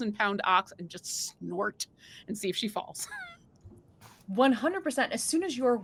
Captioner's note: chuckles